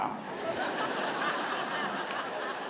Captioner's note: laughter